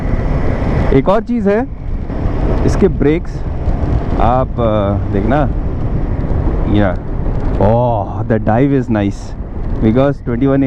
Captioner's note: braking